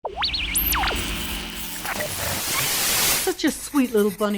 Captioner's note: radio static